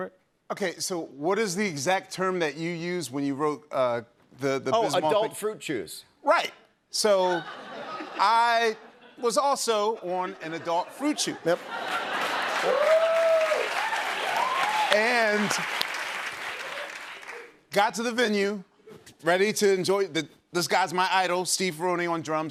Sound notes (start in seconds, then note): 13.4 cheers and applause